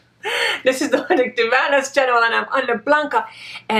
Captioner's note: laughs